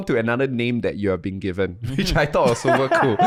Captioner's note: laughing